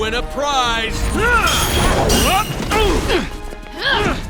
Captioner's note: wincing